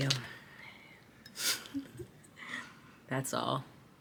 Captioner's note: Jasmine chuckling